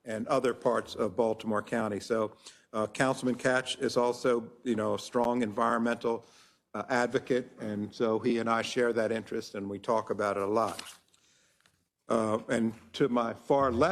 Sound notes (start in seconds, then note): none